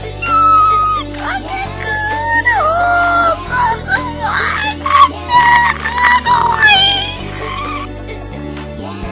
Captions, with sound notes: kyaaaaa! karkat-kuuun oohhhhh so sugoi desu! kawaii!! [gurgles]